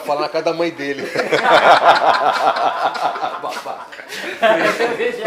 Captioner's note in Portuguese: Risos